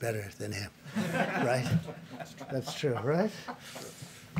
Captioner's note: laughter